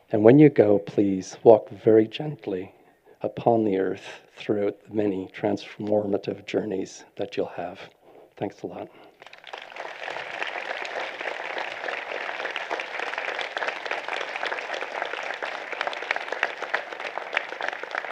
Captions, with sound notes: And when you go, please walk very gently upon the Earth through the many transformative journeys that you'll have. Thanks a lot. [APPLAUSE]